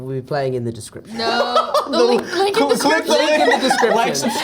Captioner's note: laughs